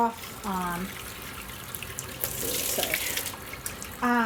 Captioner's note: water pouring